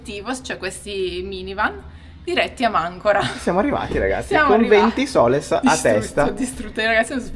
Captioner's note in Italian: risate